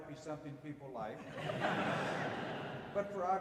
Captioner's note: audience laughing